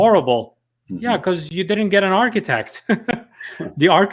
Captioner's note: chuckles